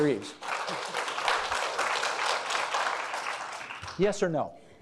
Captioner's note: audience applauding